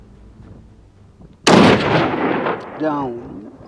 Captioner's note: gunshot